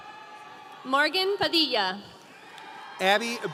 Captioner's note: audience cheering